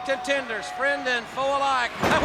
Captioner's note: blows thudding